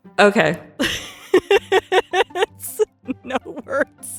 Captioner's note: laughs